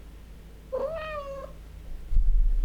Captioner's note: cat meows off screen